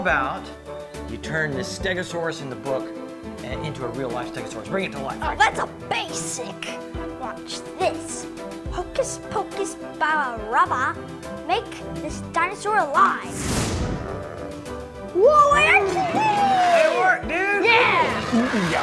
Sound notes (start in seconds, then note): 13.3 magic explosion; 13.9 dinosaur call